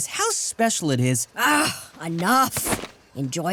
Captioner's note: scoffs